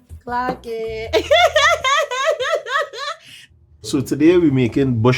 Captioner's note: laughing